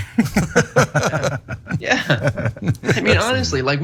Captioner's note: laugh